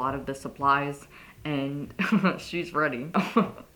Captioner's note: laugh